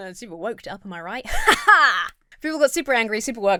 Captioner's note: laughs self-confidently